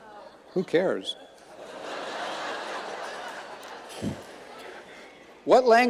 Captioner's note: audience laughing